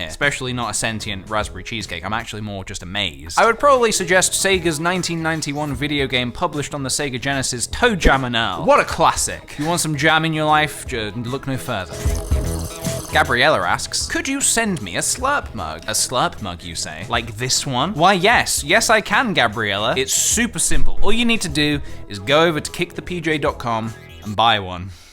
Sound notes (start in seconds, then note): 11.8 slurp; 24.9 breath